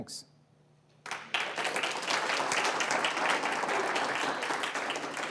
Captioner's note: audience applauds